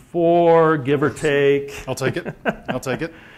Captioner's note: laugh